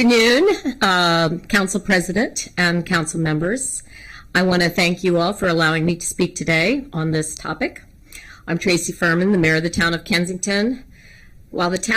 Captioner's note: laughter